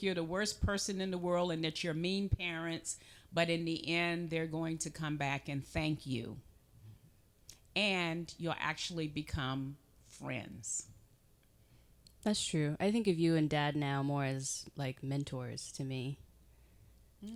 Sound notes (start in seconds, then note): none